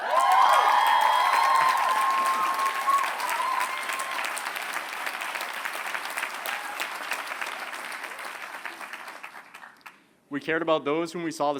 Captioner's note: applause